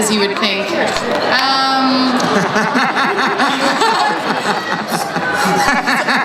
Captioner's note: laughing